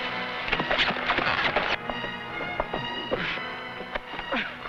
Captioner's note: tense music; horse hooves pattering; sentry groaning